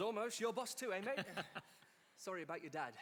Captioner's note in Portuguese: Charlie laughs